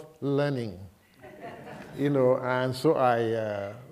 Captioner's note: laughter